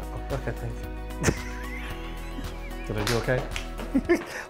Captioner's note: laughing